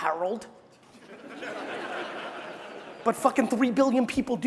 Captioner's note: crowd laughing